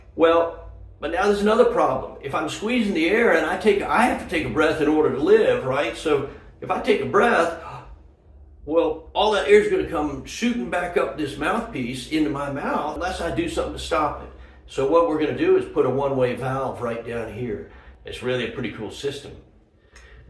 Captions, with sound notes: Well, but now there's another problem. If I'm squeezing the air and I take a-- I have to take a breath in order to live, right? So, if I take a breath (inhales audibly) well, all that air's gonna come shootin' back up this mouth piece, into my mouth, unless I do something to stop it. So what we're gonna do is put a one-way valve right down here. It's really a pretty cool system.